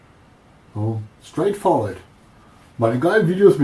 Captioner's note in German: Aus dem Off